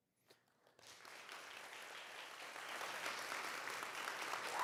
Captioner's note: audience clapping